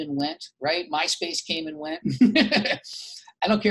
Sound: laughs

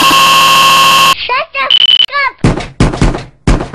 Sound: morse

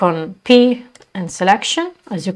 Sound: click on

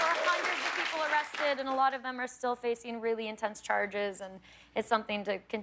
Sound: cheers and applause

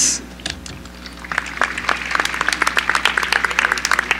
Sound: applause

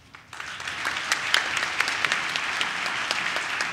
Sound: audience claps

